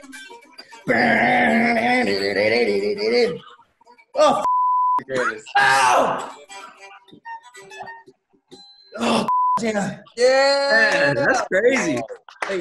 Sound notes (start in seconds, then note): 0.0 imitates guitar; 4.4 beep; 9.3 beep